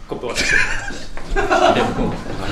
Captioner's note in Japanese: スタッフさんの笑い声